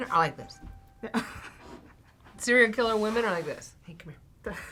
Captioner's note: React chuckles